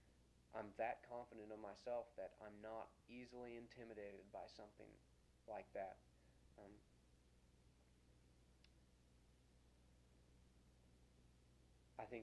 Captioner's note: pause